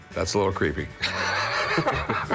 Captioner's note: laughter